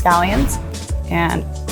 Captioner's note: instructions whooshing